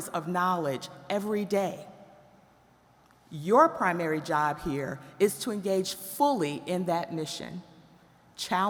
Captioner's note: none